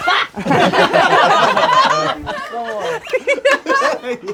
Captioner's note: crowd laughing